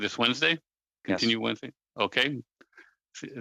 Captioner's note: speaking French